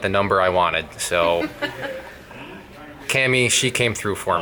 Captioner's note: laughs